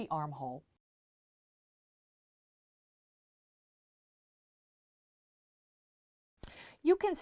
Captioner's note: no Sound Present